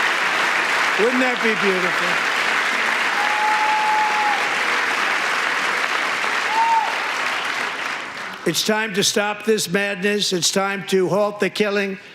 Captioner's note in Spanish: aplausos